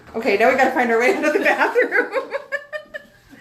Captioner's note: laughing